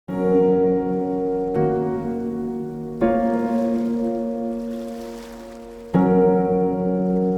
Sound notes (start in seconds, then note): 0.1 soft piano music; 3.4 water splashing